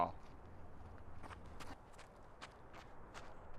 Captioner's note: rustling